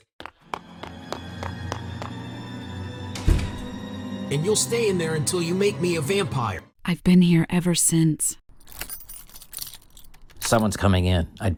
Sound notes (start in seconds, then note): 0.2 footsteps clicking; 0.4 ominous music; 8.5 keys jingling